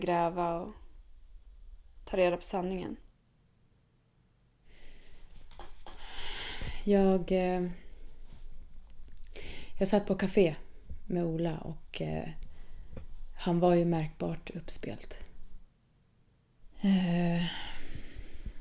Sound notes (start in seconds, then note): 6.0 sighs